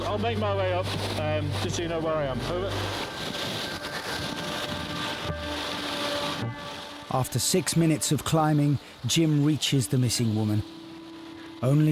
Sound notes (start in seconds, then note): 2.9 audio hissing; 2.9 suspenseful music